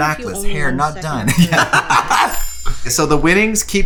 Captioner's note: laughs